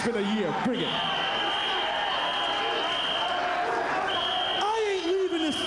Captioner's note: applause